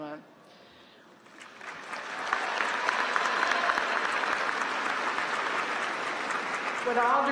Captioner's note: applause